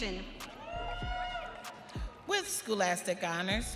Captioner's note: audience cheering